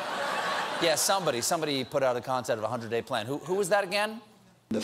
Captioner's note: laughter